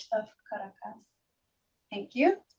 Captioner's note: foreign language